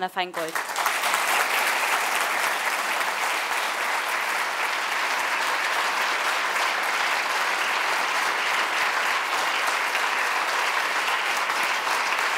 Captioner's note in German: Publikum klatscht